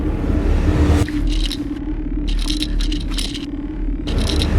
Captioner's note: object rattling